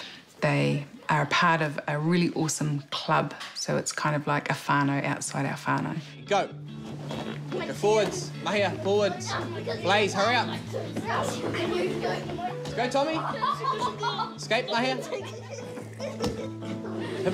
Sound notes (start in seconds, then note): 8.5 children chatter; 13.2 child laughs; 15.7 children giggle